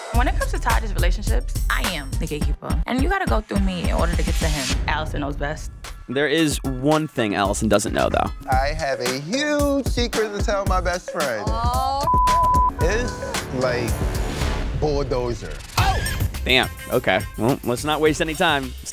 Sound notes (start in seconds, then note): 12.0 beep